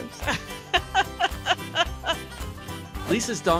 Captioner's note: laughing